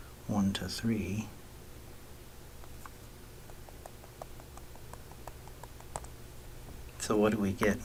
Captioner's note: writing Sounds